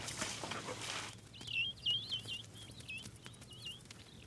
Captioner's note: birds calling